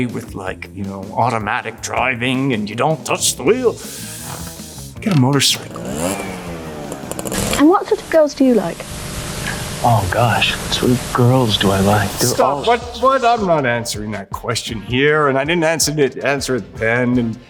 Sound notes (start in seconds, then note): 6.1 motorcycle engine roars